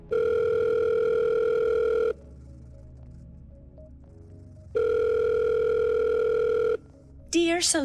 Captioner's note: phone Rings